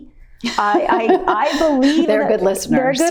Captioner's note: laughs